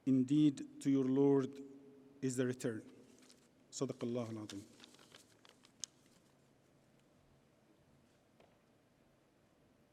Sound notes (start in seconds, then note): 3.9 paper crinkles; 4.0 speaks Arabic